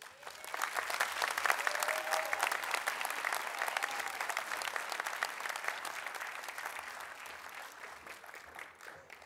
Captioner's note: applause, Cheering